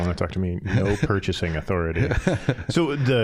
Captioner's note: scattered chuckling